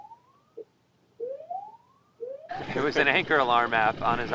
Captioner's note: alarm blaring